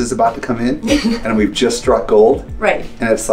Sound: chuckles

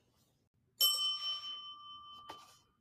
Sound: bell dings

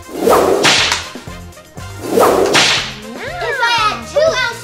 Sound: gloves snapping

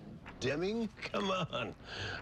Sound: chuckles

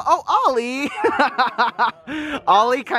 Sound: laughs

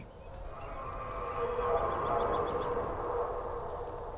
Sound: whale noises

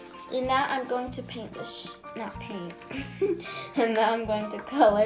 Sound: laughs

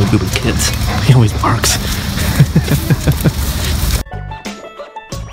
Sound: laughs; upbeat music

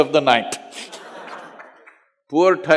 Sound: laughter

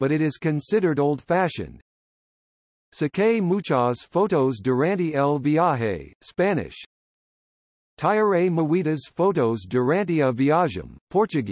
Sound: Spanish

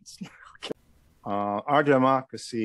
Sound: chuckles

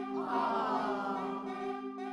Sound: upbeat music; audience says aw

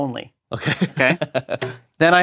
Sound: laugh

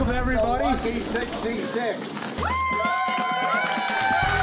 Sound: cheers

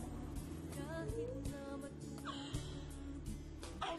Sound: whimpers

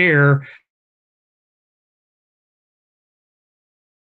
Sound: microphone fades

